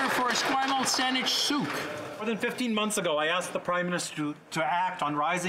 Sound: some Applause

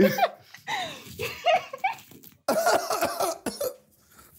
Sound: laughing

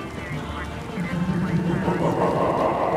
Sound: menacing laugh

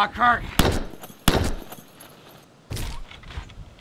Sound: gun firing

